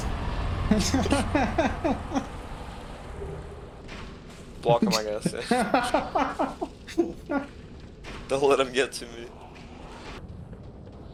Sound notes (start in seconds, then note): 0.7 laughing; 4.8 chuckles!